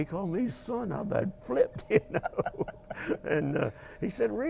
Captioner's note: laughing